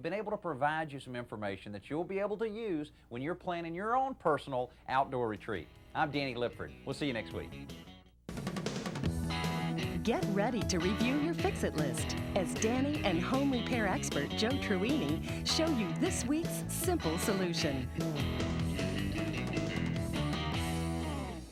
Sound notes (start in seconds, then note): 8.1 bright upbeat music; 10.1 voiceover; 18.2 bright upbeat music